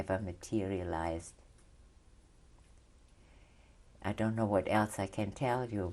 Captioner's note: pauses for 3 seconds